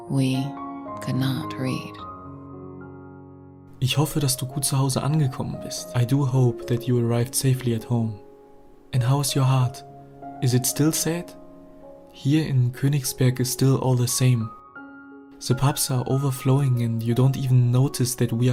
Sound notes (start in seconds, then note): 4.0 man speaking foreign language